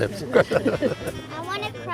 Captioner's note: laughing